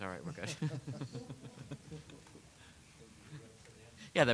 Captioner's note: chuckling